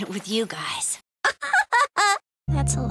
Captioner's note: giggle